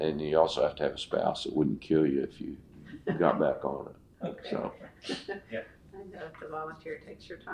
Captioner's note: laughter